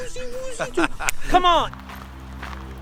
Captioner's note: fingers snapping